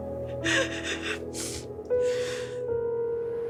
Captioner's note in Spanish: Sollozos